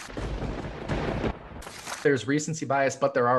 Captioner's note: thunder cracks